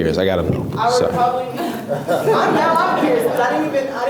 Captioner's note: laughs